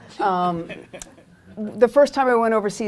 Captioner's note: laughter